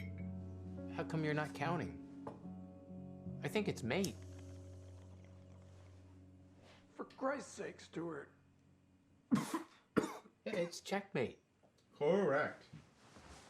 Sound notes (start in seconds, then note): 9.2 coughs